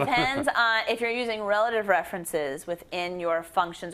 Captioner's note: laughs